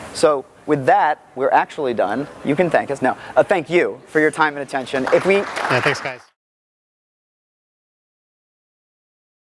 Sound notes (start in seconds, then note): 4.9 audience applauding